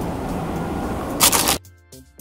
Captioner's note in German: Knistern